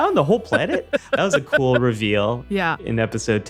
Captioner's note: laughs